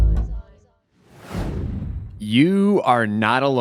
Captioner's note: screen swooshes